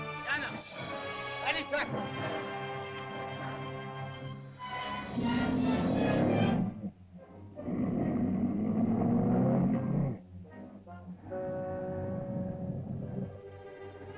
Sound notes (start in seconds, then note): 0.2 Tumak speaks in caveman language; 3.4 dramatic music; 4.6 lizard growls; 5.3 dramatic music; 7.5 lizard growls; 10.4 ominous music; 13.2 tense music